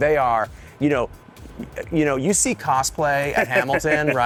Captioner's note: laughing